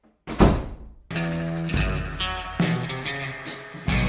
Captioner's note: door thuds